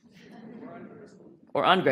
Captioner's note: voiceover